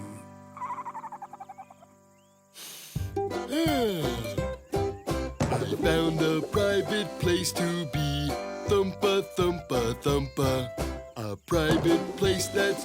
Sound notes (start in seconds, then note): 2.5 sniffing